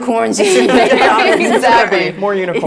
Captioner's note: laugh